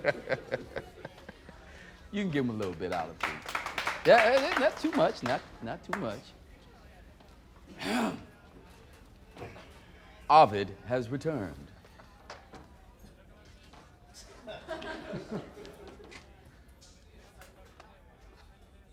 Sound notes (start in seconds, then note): 2.5 applause; 7.7 clears throat; 14.2 laughter